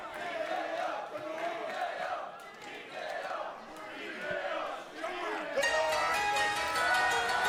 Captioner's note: fans chanting